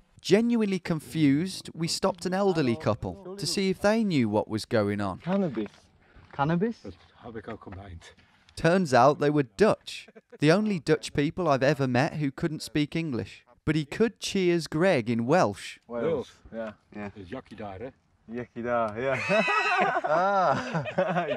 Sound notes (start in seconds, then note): 7.3 speaking foreign language; 16.3 men laughing; 16.3 speaking foreign language